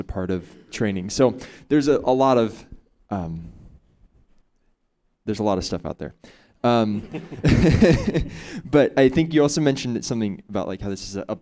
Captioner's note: chuckles